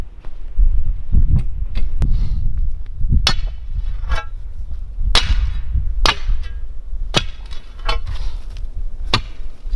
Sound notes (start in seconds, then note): 3.6 digging bar thudding; 3.6 thuds echoing